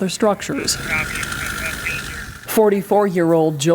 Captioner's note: radio communications